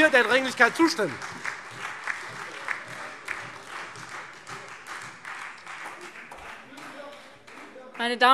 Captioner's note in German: Beifall Freie Demokraten und SPD